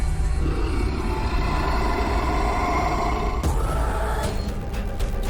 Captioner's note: Dracula hissing; dramatic music